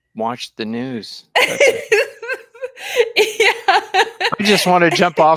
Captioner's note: laughing